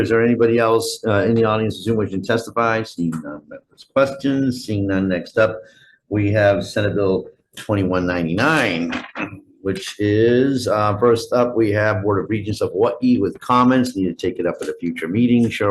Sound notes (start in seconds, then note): none